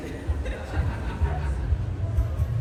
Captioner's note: laughter